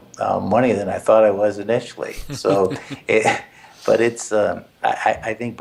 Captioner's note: laugh